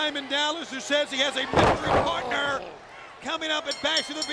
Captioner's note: body thudding